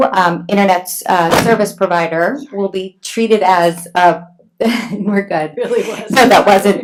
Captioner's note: laughs